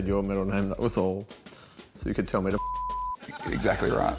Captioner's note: beep!